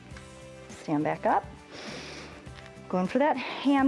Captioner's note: inhales